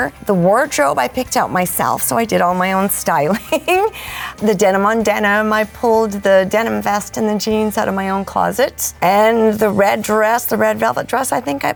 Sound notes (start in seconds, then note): 3.0 laughing